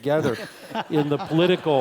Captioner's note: laugh